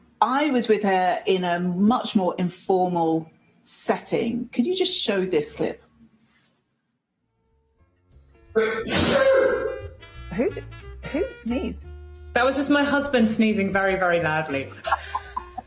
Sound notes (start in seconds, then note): 8.5 sneeze